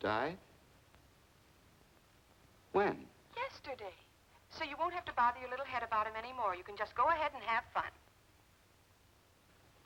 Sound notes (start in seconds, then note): 4.1 on phone